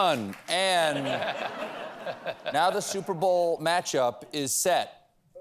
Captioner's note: laughter